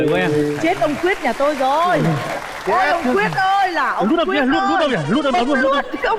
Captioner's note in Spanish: Aplaudir